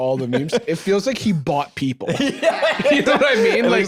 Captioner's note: laughing